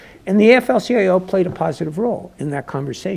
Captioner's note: none